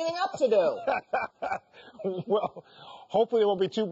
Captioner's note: laughs